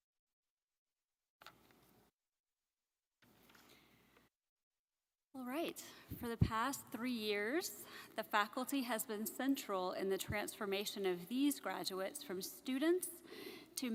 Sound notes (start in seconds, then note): 1.7 paper rustling